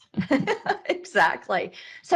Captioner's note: chuckles